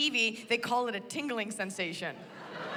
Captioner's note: laughter